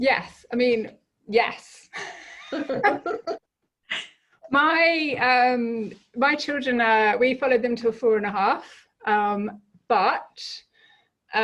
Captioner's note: laughing